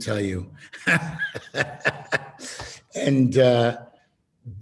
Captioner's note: laughing